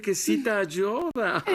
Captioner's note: chuckles